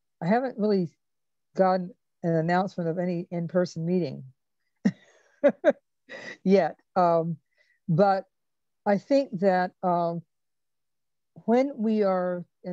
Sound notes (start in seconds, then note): 5.6 laughs